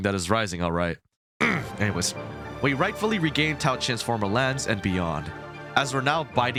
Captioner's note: clears throat